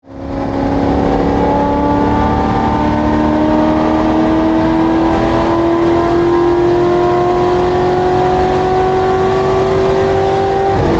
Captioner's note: racecar noises